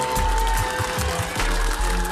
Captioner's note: audience cheering